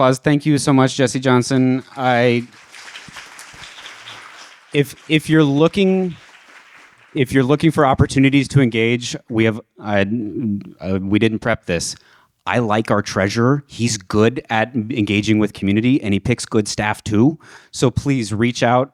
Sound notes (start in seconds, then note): 1.7 audience applauds